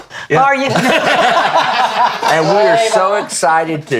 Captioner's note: everybody laughing